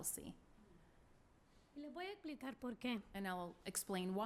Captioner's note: speaking spanish